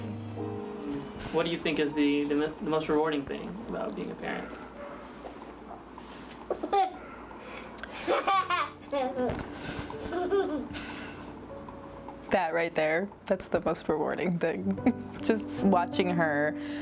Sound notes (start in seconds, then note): 7.0 laugh